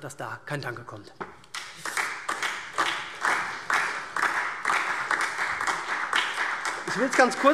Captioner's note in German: Beifall SPD und DIE LINKE